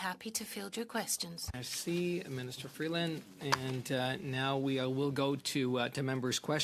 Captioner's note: speaking French